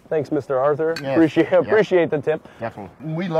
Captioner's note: bottles clinking